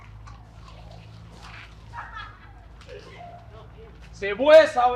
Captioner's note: laughter